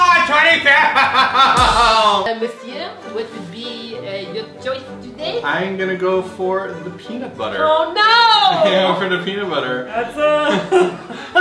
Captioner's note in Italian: con accento francese